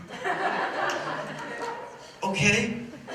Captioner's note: laughter